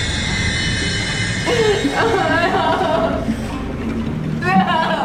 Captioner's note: Mindy sobbing